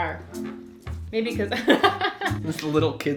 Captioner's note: laughter